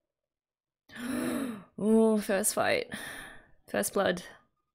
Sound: inhales

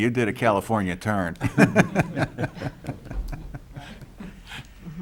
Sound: laughing

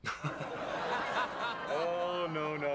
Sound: laughs

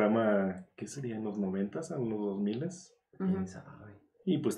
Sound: none

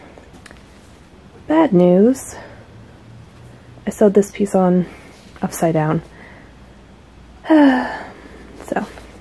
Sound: sigh

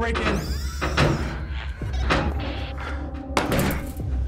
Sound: radio static

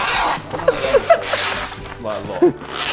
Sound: Tobi laughing

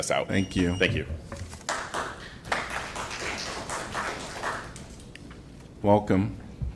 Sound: applause

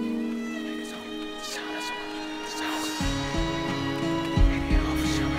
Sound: gunslinger whispering

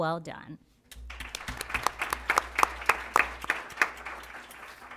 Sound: applause

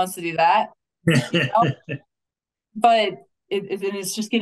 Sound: laughing

